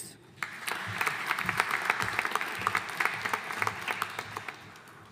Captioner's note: audience applauding